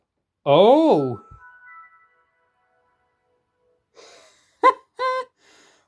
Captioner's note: windows startup sound